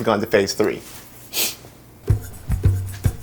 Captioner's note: sniff